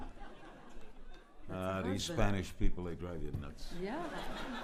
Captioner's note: laughter